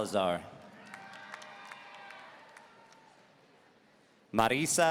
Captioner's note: audience cheering